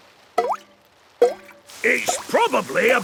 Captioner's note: water dripping